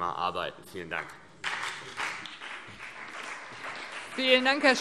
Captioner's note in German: Beifall CDU und BÜNDNIS 90/DIE GRÜNEN